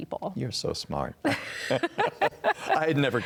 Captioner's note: both laugh